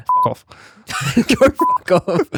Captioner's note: laughing